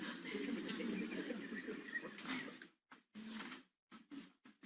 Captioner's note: crowd murmurs